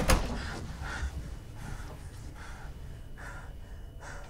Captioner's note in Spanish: Respirando profundamente